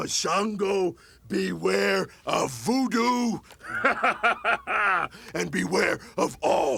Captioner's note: laughs